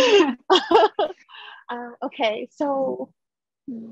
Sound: she laughs

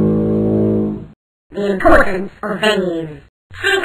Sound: voice over

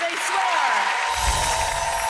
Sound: audience clapping and cheering; graphic whooshing

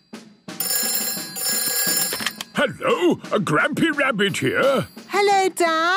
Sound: phone ringing

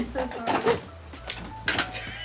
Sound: door clicks; assistant laughs in background

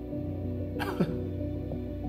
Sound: Samuels snickers

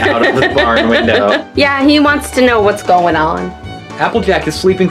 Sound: laughs

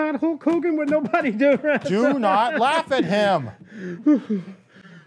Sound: laughs

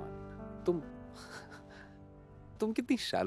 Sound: laughs

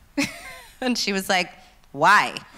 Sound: laughs

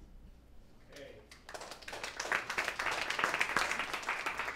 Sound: applause

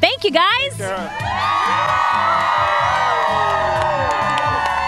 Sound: crowd cheering

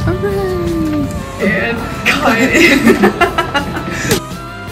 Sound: laughing; upbeat music

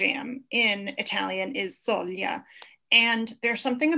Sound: speaks foreign language

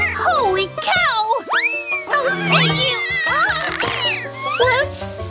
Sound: meows wildly

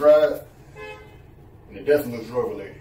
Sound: honk

